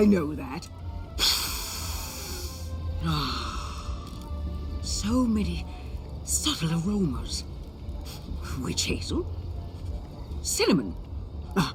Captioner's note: inhales